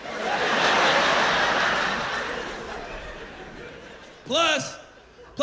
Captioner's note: laughter